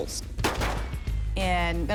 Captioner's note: gun shots